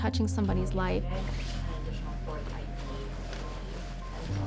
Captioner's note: people chattering